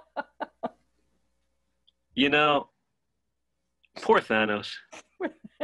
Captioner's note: laughing